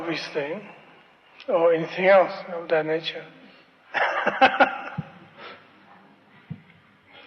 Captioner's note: laughs